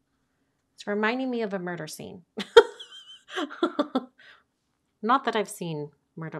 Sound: laughing

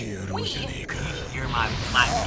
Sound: speaking Japanese

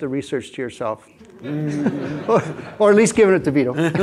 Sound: laughs; audience laughs

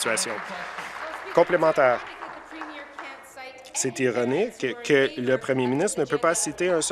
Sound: applause

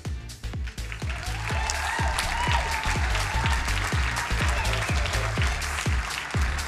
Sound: crowd cheering and applauding

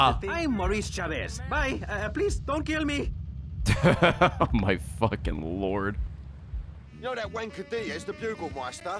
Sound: laughs

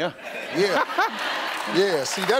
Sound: audience laughing; laughing; audience clapping

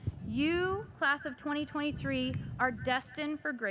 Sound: none

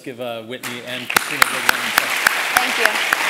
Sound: applause

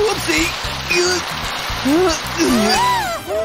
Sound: moaning; groans

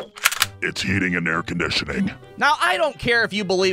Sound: deep voice

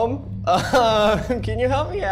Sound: laughs nervously

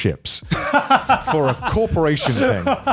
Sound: laughs

